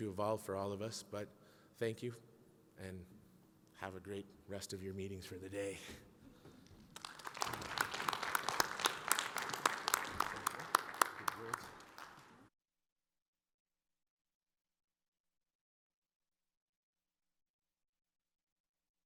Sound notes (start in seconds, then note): 6.7 applauding